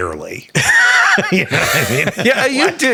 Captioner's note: chuckles